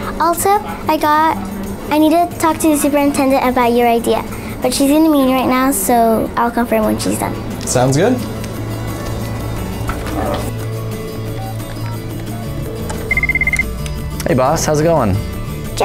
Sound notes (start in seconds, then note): 12.8 phone dialing; 13.0 phone ringing